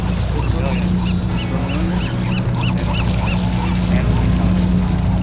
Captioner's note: birds chirping